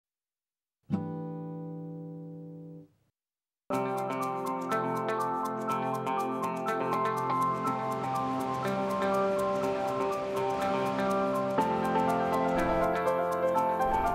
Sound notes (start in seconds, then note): 3.2 upbeat music; 7.1 river water flowing